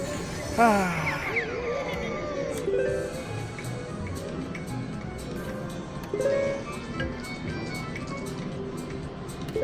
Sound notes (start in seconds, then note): 2.8 machine beeps